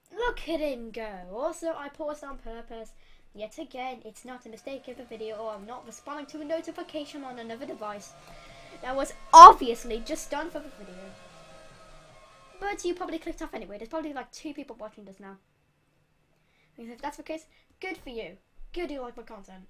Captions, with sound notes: Look at him go! Also I paused on purpose. Yet again, it's not a mistake in the video or I'm not responding to a notification on another device. *inhale* That was OBViously just done for the video. But you probably clicked off anyway there's probably like two people watching this now. And if that's the case, GOOD for you. GOOD you want more content.